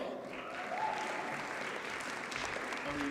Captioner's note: audience cheers and applauds